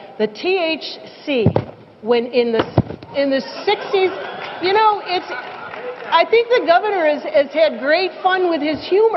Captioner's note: laughter